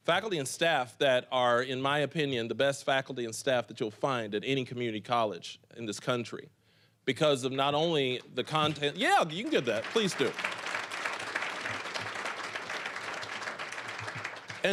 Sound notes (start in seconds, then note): 8.5 applause; 8.6 scattered applause; 11.7 applause